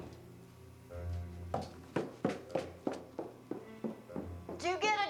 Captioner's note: footsteps on stairs